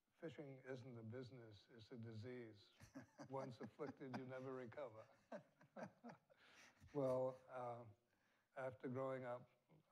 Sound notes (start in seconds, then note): 2.8 laughs; 5.7 both laughing